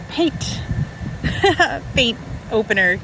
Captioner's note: laughing